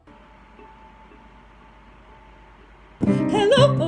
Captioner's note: soft picking sounds